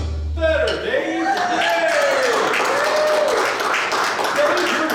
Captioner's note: audience cheers